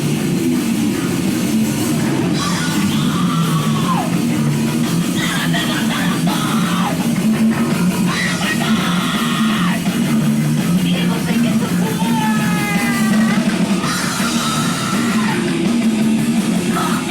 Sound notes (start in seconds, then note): 2.4 woman screaming